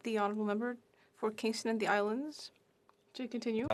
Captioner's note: speaking in FRENCH